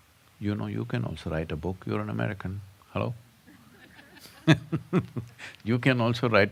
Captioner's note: laughter